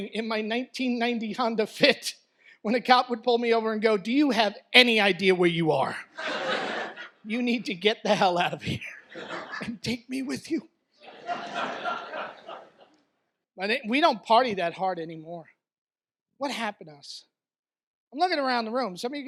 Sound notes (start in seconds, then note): 6.1 laughter; 11.0 audience laughs